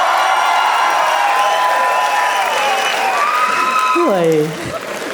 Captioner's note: crowd applauding